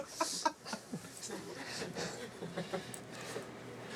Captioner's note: laughing; animators Laughing